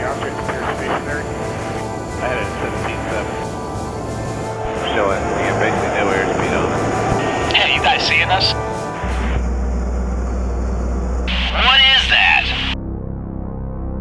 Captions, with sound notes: - [Voiceover] the objects pretty stationary. - [Voiceover] I heard it's 17 7 - [Voiceover] Showing basically no air speed on it. - [Voiceover] Hey are you guys seeing this? - [Voiceover] What is that?